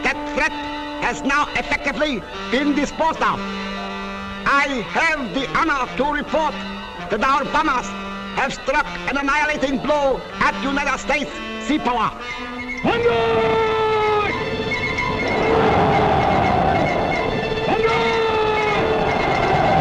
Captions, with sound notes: That threat has now effectively been disposed of. I have the honor to report that our bombers have struck an annihilating blow at the United States sea power. "Bonzai!" (yelling in Japanese)